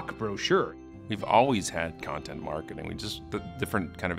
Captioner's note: voiceover